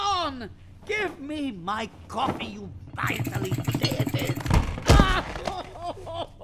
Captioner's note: frustration, crying